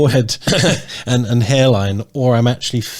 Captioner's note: chuckling